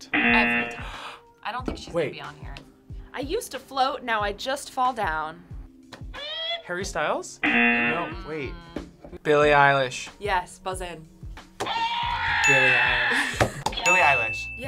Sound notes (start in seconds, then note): 0.1 buzzer sounds; 7.4 buzzer sounds; 11.7 buzzer shouts